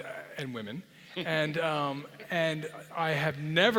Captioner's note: laugh